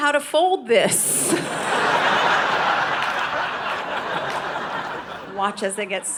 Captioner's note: audience laughing